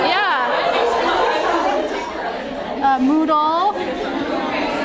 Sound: attendees laugh

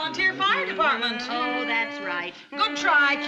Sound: Lucy's humming grows louder

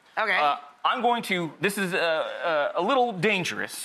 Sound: none

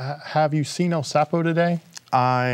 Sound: none

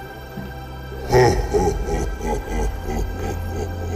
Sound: laughing

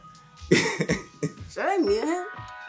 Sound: laughs

